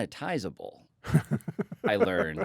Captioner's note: chuckles